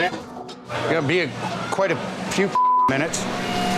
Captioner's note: beep